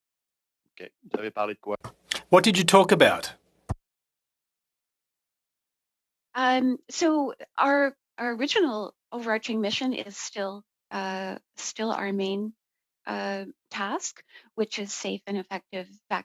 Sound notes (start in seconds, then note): 7.4 speaking French